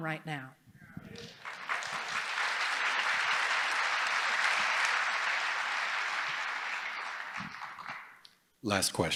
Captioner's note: applause